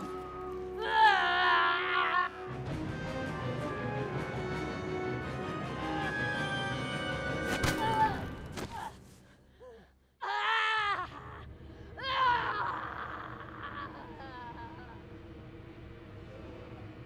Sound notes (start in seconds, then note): 0.1 yelling; 7.1 thud; 9.5 yelling